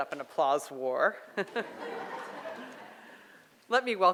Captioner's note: audience laughs